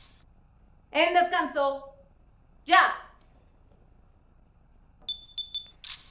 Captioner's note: camera clicks